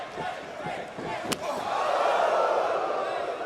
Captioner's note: crowd chatter; crowd cheering